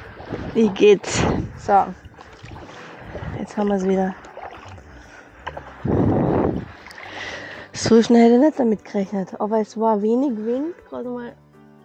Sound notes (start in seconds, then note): 5.4 wind